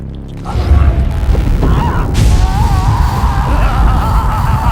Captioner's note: screaming; The Mold laughing